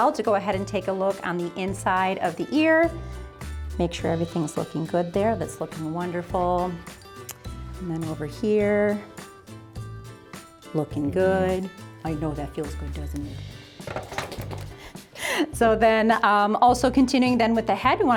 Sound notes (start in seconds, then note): 15.2 laughing